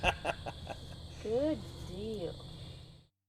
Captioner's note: laugh